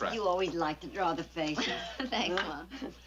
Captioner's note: Ann laughs